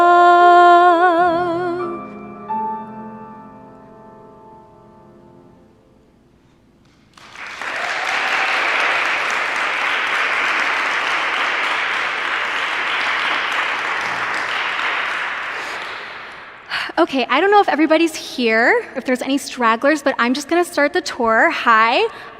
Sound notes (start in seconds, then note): 6.9 applause